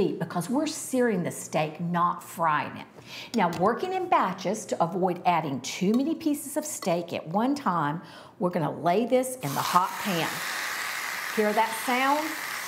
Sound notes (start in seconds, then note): 9.5 meat sizzling